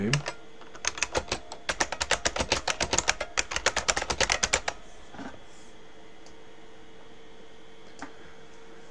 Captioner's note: typing